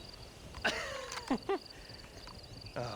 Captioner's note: laughs